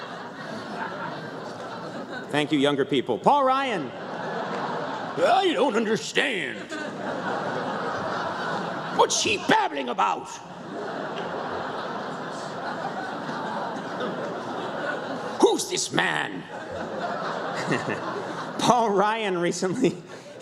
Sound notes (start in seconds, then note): 16.0 laughter